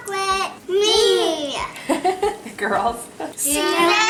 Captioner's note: laughing